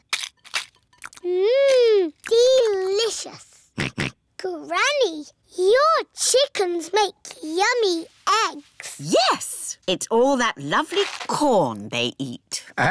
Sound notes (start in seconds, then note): 3.8 george oinks